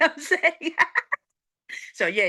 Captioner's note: laughing